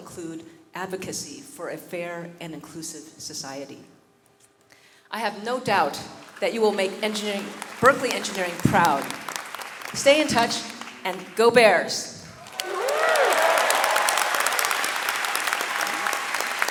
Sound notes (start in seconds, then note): 5.7 audience clapping; 12.3 audience cheering and clapping